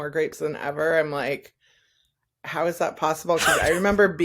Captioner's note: breathy laughter